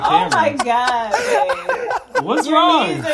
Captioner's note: laughing